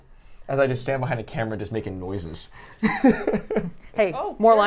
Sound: laughs

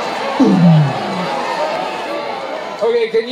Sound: crowd protests; makes sound effect of speakers turning off

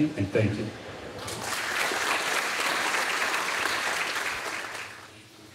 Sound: audience applauding

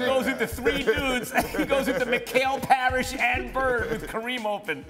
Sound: laughter

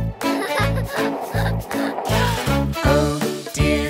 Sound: boy laughing

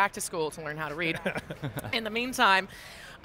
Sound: chuckles

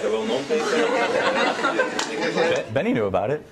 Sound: audience laughter

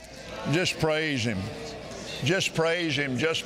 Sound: audience chattering

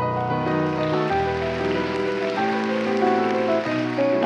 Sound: applause

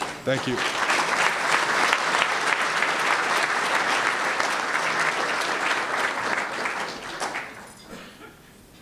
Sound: applause

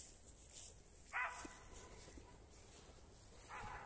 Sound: dog barks

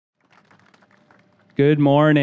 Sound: audience clapping

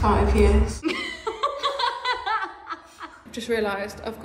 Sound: laughing

